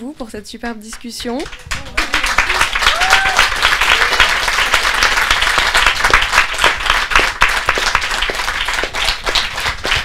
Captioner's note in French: applaudissements